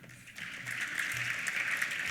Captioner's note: applause